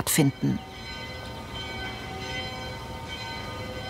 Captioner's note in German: Glocken läuten